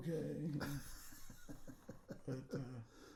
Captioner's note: laughing